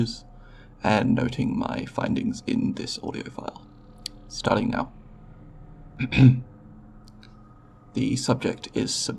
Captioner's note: clears throat